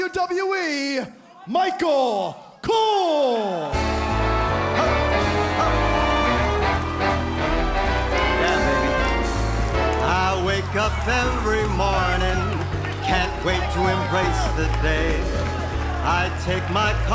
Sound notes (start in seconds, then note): 6.6 crowd chatter